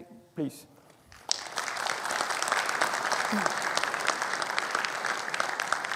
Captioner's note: audience applauding